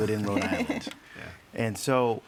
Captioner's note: all chuckle